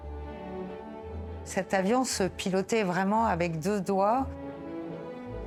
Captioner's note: bright triumphant music continues; speaking French